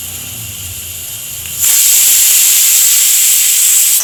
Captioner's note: satisfying pressure cooker whistle